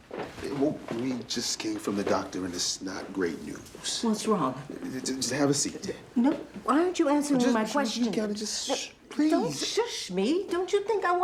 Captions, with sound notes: - Whoa, we just came from the doctor and it's not great news. - What's wrong? - Just have a seat. - No, why aren't you answering my questions? You gotta just, (shushes) please! - Don't shush me! Don't you think I wanna know